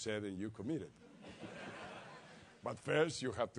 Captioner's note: laugh